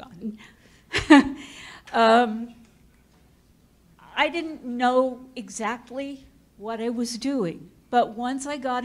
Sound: chuckles

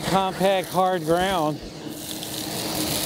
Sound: vacuum

